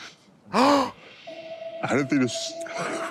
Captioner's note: Trixie gasps